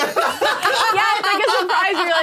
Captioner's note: laughs